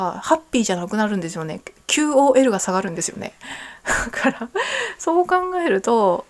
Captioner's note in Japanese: 笑い